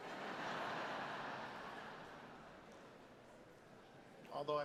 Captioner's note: audience laughs